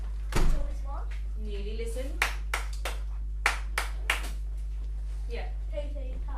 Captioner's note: teacher claps